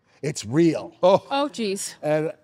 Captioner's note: chuckles